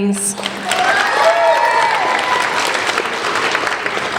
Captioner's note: applauding